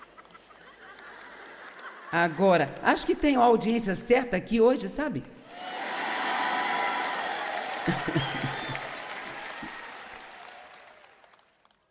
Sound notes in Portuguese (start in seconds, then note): 0.0 audiência ri; 5.5 audiência aplaude